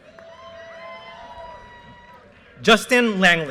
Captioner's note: audience cheers and applause